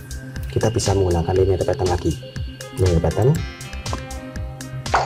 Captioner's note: click